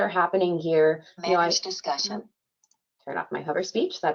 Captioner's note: computerized Voice